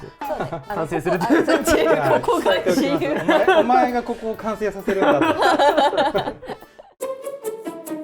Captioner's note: laughs